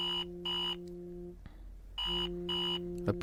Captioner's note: alarm beeping